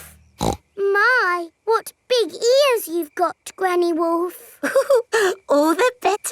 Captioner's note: snorts; chuckles